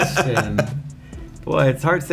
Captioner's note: laughing